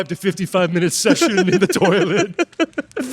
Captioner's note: laughing